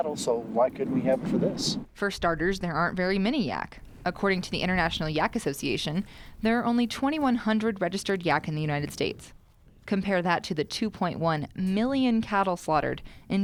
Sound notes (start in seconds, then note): 2.1 voiceover